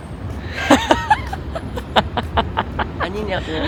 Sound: couldn't hold in the laughter

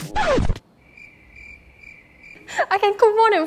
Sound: cricket sounds

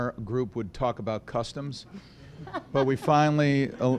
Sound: laughter

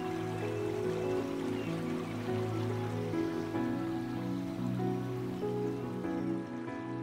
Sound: water burbles; soft music; bird chirps; soft music continues

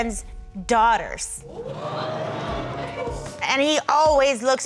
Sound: audience exclaims

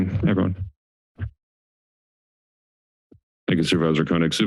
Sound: silence

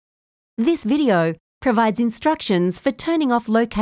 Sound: voiceover

